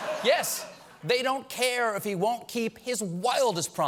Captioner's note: laughter